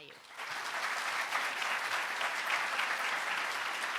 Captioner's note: applause